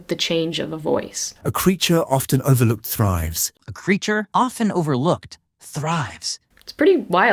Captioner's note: tries a few different voices